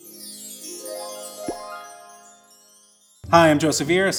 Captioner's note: chimes tinkling